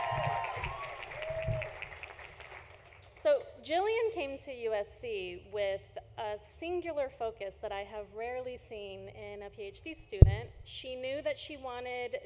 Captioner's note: applause